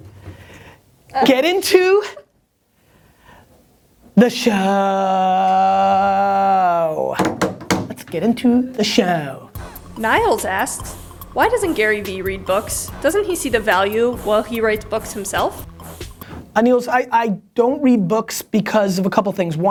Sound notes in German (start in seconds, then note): 9.9 Voice-over